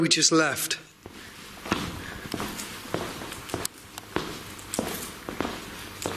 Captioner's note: footsteps clanking